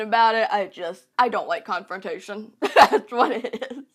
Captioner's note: laughs